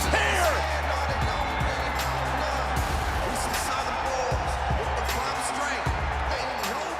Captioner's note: intense music; cheering